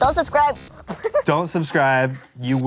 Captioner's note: laughter